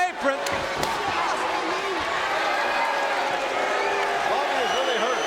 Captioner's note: audience cheering